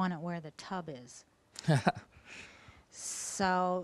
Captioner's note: laughing